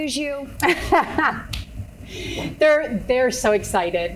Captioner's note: laughing